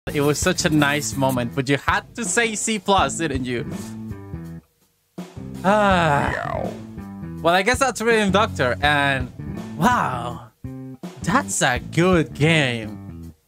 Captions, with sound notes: It was such a nice moment But you had to say C+ Didnt you? (Sigh) well i guess thats Rhythm Doctor and WOW that's a good game